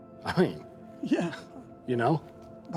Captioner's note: laughs